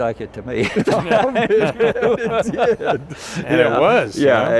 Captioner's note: both laughing